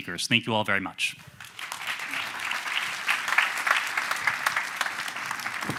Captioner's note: applause